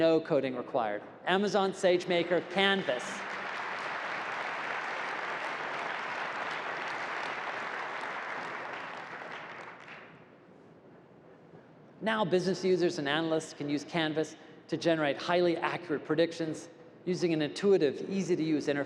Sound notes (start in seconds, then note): 2.1 applause